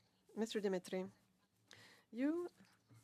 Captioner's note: speaking French